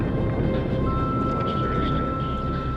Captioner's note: equipment beeping